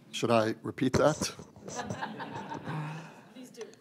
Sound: laughter

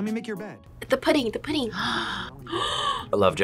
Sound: gasps

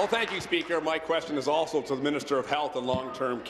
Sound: applause

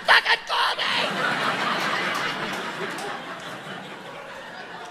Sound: audience laughing

